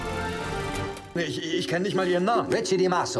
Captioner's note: speaking german